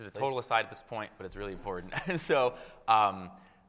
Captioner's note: chuckles